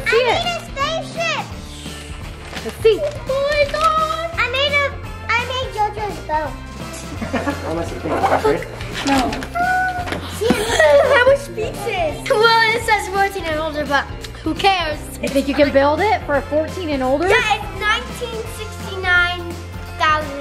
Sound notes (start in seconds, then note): 6.9 laughing; 10.4 squealing